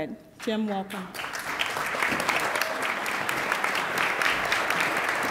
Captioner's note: attendees applaud